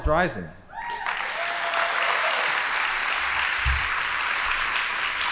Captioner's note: audience applauding